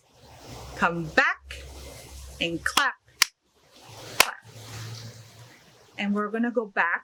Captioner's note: hands clapping